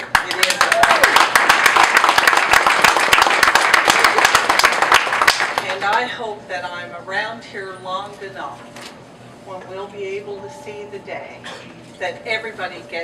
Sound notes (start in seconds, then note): 2.4 applause